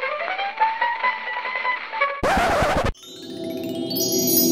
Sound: record scratch

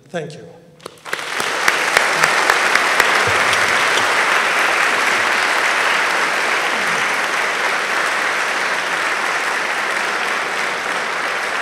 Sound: applause

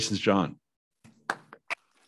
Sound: applause

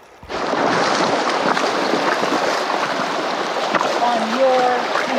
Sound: water splashing

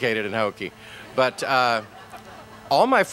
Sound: laughter

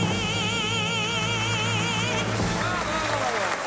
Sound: cheers and applause

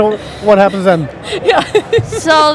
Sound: laughs

